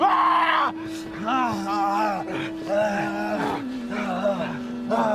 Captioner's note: Robin screams; Percival groans; Robin grunts